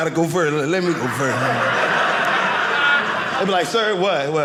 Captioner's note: audience laughing